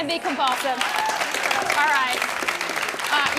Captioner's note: audience claps